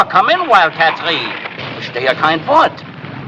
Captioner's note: speaking in german